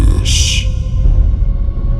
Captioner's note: boom